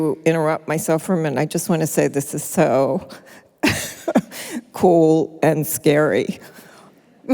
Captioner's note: laughs